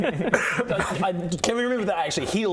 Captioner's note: splutters